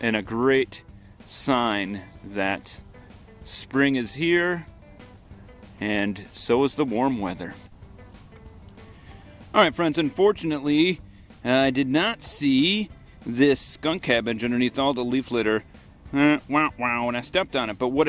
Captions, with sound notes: And a great sign that spring is here and so is the warm weather. All right, friends, unfortunately, I did not see this skunk cabbage underneath all the leaf litter (wah-wah) and I stepped on it.